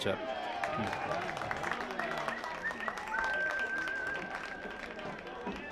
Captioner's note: applause